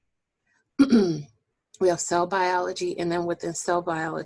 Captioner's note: clearing voice